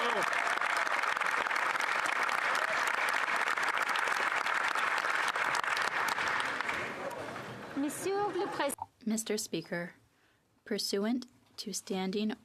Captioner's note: some Applause